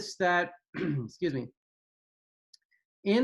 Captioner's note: clears throat